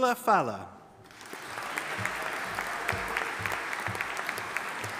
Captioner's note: audience applauding